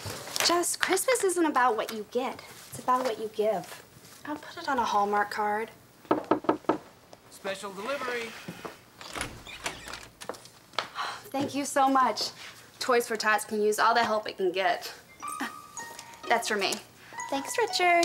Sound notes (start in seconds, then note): 6.1 knocking; 10.5 sighs